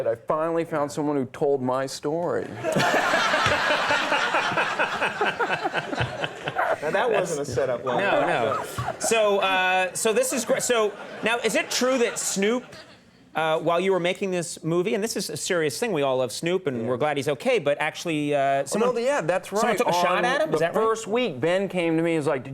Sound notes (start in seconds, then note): 2.6 all laughing